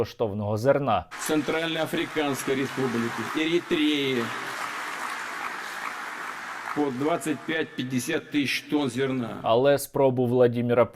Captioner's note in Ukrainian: оплески